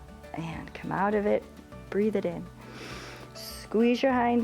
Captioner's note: inhales